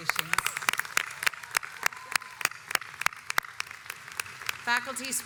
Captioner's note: audience applauds